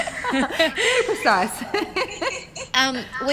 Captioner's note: laughing